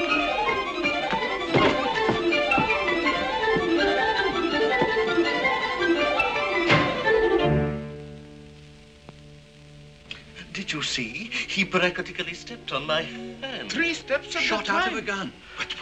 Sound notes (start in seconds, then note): 6.6 door slams shut